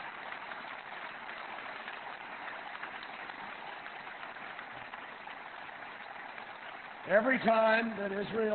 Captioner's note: applause